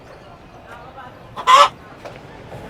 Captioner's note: chicken Noise